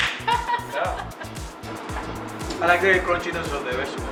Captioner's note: hands high fiving; chef laughing